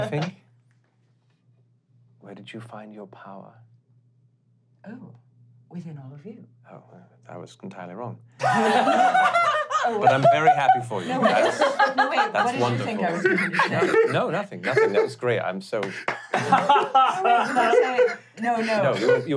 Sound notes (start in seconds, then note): 8.4 laughing; 15.8 clapping; 15.8 laughing